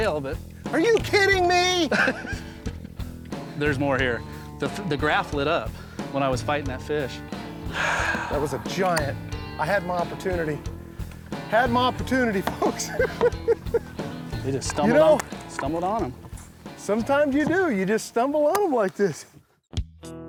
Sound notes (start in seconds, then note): 1.8 laughs; 7.6 sighs; 12.5 laughing; 19.6 bluesy music